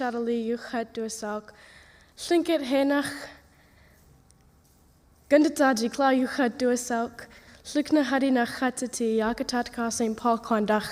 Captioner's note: speaking tlingit language